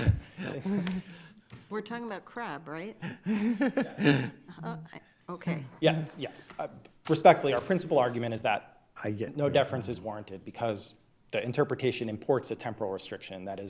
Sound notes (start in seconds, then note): 0.0 laughs; 3.1 laughs